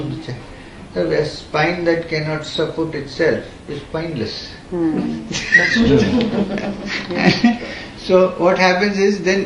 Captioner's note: laughs